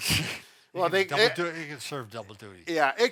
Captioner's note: laughs